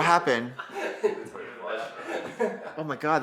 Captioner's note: people laughing